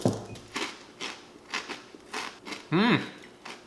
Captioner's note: cereal crunching; humming in satisfaction